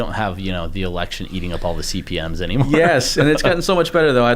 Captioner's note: chuckles